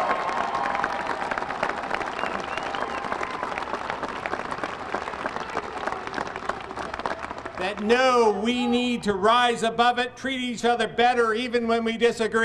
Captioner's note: applause; cheers